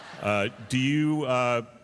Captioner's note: laughter